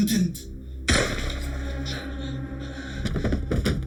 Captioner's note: dramatic music; gun bangs; body thuds